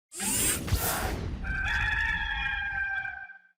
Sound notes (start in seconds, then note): 0.2 logo whooshing; 1.4 cock crowing